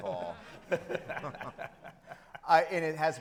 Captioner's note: all chuckling